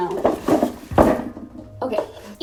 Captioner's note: klunk